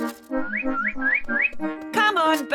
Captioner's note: tweets